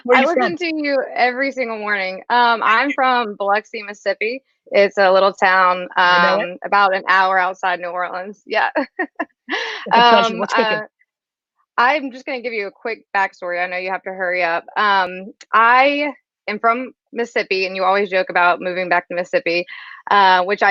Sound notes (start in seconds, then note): 9.8 laughs